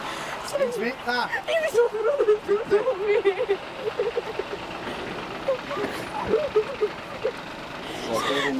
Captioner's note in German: weint